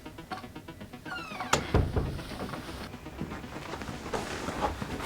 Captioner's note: upbeat music; door squeaking